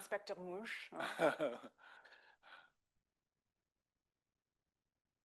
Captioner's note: speaking French; laughs